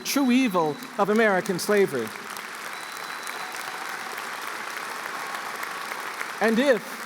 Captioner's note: applause